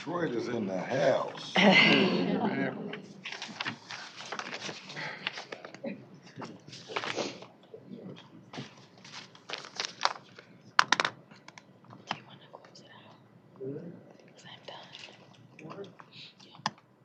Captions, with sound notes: >> Detroit is in the house. [ laughter ] [ indistinct chatter ]